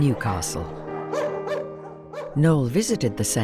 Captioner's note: dogs barking